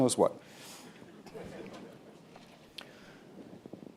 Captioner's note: laughter